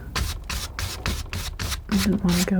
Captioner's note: scratching